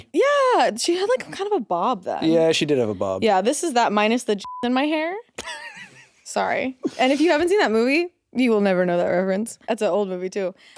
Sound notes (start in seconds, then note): 4.4 beeps; 5.4 Jacksepticeye chuckling